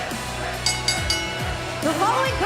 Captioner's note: bell ringing